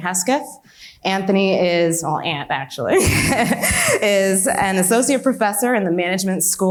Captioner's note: laughs